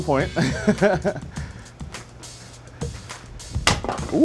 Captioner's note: laughs